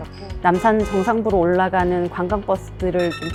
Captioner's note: car horn sound